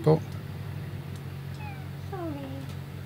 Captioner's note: miaow